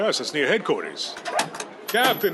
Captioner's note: door opens